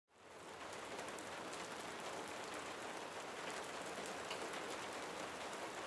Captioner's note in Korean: 빗소리